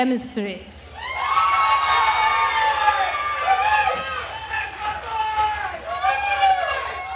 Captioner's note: attendees cheering and applauding